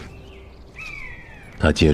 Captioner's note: the call of an eagle